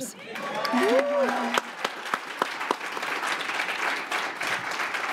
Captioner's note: applause